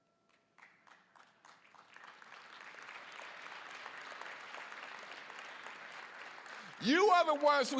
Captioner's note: applause